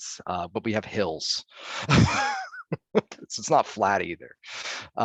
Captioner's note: laughing